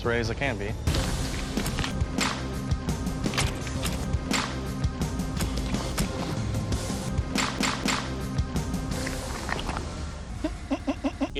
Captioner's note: varying stabbing and hitting noises; stifled laugh